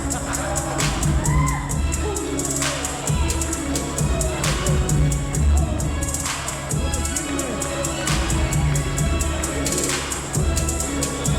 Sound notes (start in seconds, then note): 0.2 energetic music; 2.3 men shouting